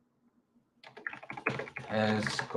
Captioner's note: keyboard clacking